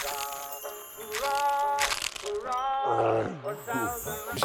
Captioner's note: light music; garlic crushing